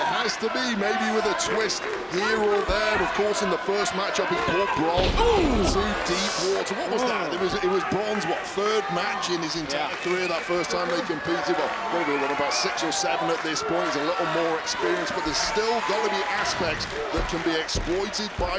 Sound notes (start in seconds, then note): 5.0 body thudding